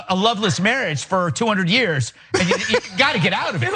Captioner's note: laugh